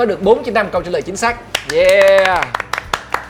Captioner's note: clapping